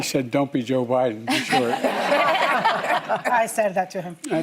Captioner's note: laughter